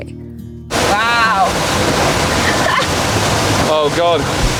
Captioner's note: laughs